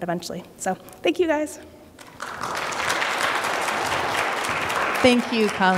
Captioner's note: applause